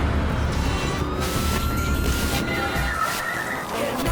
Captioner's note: radio channels cycling